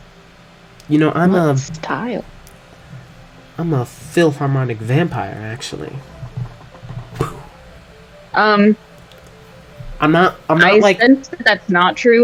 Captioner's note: mic drop